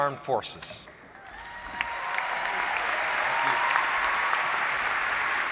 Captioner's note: applause